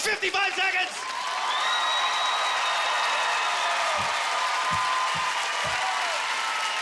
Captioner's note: audience cheering